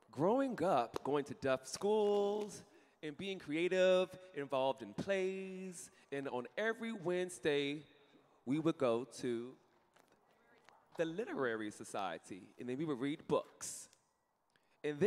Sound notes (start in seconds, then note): none